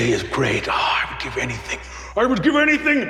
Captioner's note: sighs